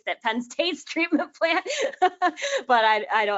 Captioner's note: laughs